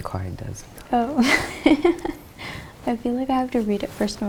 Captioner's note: laughs